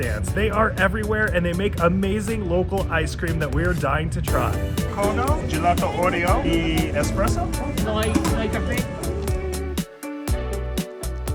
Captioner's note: speaking spanish